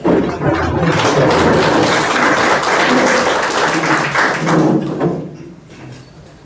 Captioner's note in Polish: oklaski